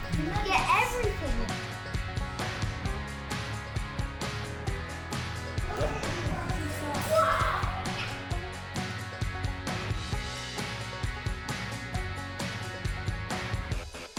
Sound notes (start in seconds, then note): 5.6 grunting